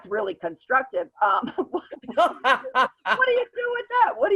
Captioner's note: laughs